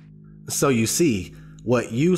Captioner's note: voiceover